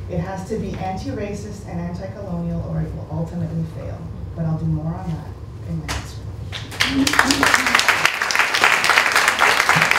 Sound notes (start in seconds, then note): 6.5 applause